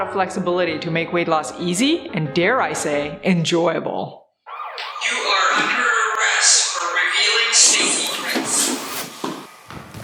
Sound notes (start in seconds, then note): 4.5 sirens blare